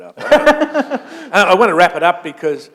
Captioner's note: laughter